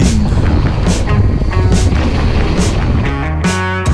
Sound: wind blowing

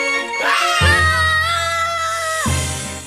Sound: both screaming

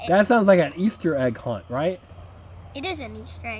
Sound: voiceover

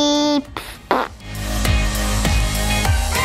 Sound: upbeat music; blowing raspberry

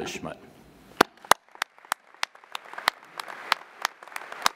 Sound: applauding

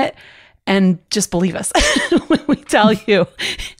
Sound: laughter

